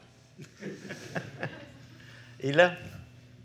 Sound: laughter

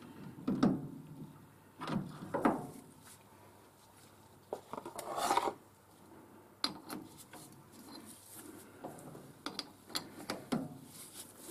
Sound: mechanical noise

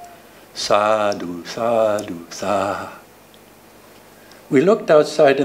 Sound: speaking foreign language

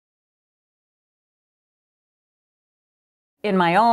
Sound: pause

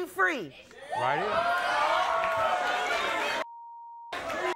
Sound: audience cheers

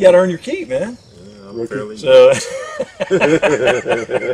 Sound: laughter

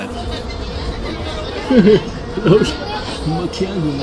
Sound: crowd noise

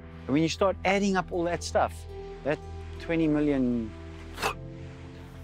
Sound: poofs

